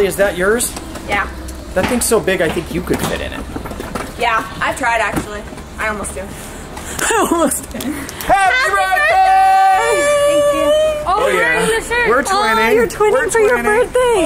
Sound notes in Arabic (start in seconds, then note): 6.8 يضحك